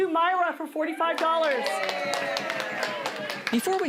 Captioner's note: cheering